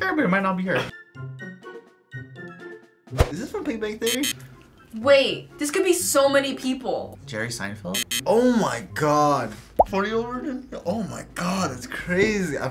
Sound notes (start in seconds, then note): 4.1 buzzer; 7.9 buzzer